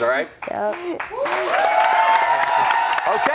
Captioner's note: cheers